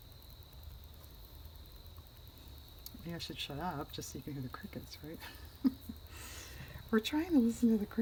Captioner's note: laughs